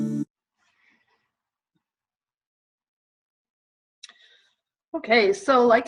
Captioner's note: silence